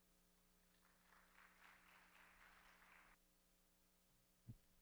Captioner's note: audience applauds